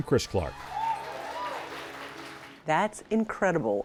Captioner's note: audience claps and cheers